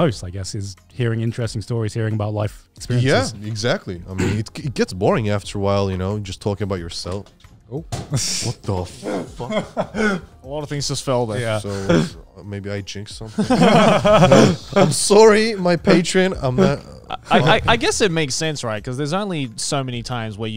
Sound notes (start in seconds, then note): 13.3 all laughing